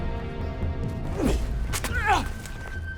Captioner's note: Belcheck groans